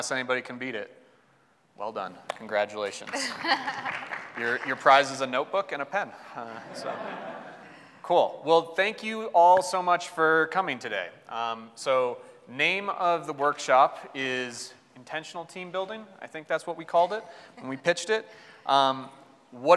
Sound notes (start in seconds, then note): 3.1 audience applauding; 6.4 audience laughs